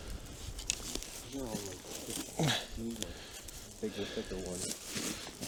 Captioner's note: grunts